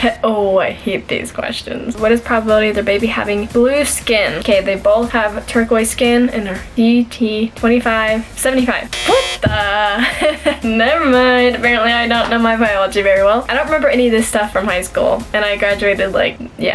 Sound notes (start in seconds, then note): 8.9 buzzer